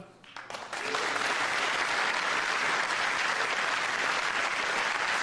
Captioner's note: applause